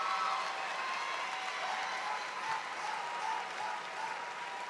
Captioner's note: cheers and applause